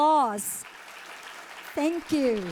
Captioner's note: audience applauding